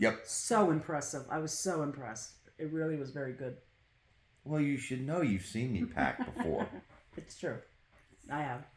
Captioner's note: laugh